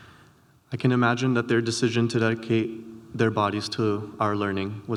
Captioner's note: none